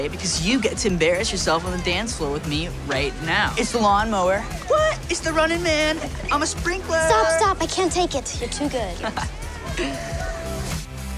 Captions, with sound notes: because you get to embarrass yourself on the dance floor with me right now! It's The Lawnmower! What? It's The Running Man! I'm a Sprinkler! Stop, stop, I can't take it, you're too good. [laughing]